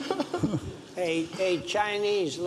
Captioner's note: audience laughs